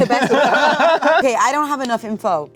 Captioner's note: everyone laughing